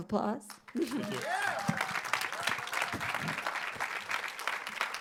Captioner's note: audience applauds